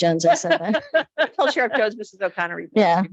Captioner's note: light laughter